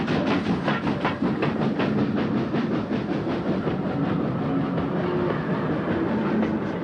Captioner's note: train passes